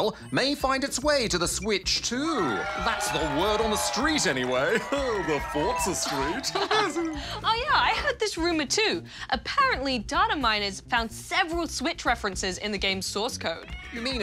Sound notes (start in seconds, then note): 4.2 chuckles; 6.6 laughs